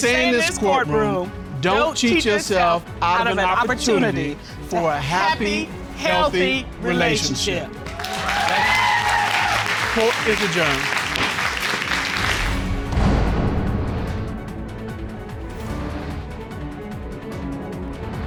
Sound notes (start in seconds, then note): 7.8 audience cheering